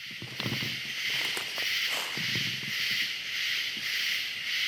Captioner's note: crickets chirping